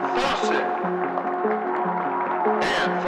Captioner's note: gentle music; audience cheers and applauds